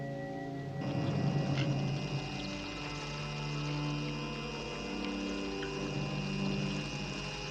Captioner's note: humming